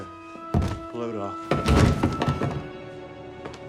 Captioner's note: large thud